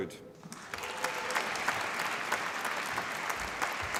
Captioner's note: applause